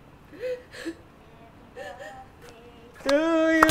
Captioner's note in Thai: ร้องไห้